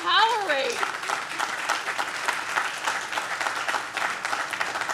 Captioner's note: audience claps